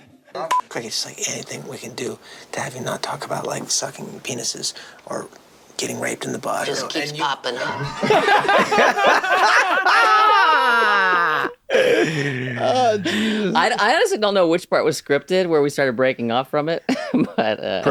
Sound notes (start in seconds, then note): 7.6 laughter